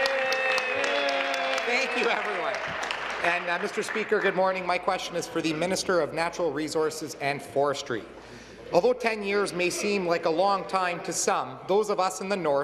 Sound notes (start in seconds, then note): 1.8 applause; 5.3 cheers